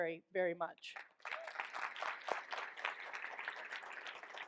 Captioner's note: all applaud